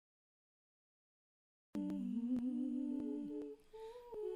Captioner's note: humming in Harmony